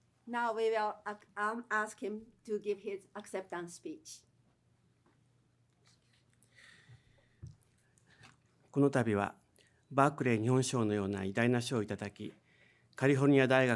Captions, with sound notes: Now, we'll ask him to give his acceptance speech. (speaking in foreign language)